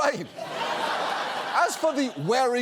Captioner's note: studio audience laughs